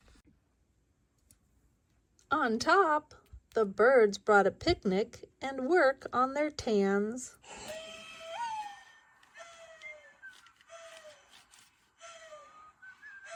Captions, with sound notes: On top, the birds brought a picnic and work on their tans. (birds coo)